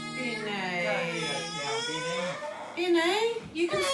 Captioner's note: cries